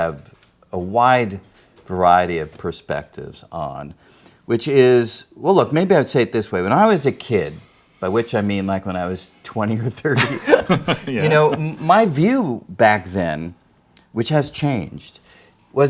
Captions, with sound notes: have a wide variety of perspectives on, which is, well, look, maybe I would say it this way. When I was a kid, by which I mean like when I was 20 or 30- (laughs) - (laughs) Yeah. - You know, my view back then, which has changed,